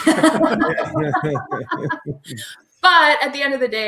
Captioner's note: all laugh